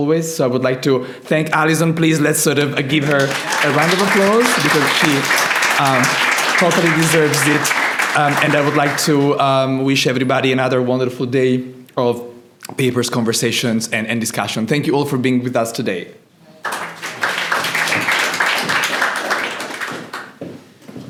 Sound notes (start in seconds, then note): 7.1 applause